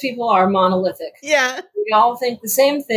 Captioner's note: laughing